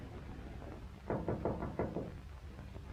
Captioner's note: knocking